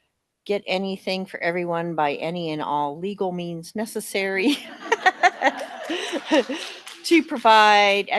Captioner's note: laughter